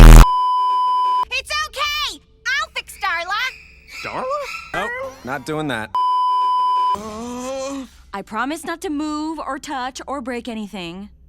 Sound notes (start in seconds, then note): 0.0 beeeeeeeeeeeep; 6.0 beeeeeeeeeeeep; 7.2 stammers